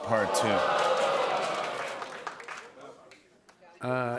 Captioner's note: audience ohhs